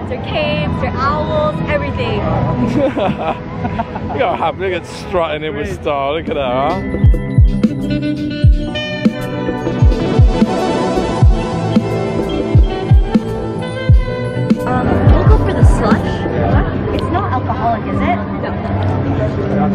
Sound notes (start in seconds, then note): 2.6 man laughs; 8.3 upbeat music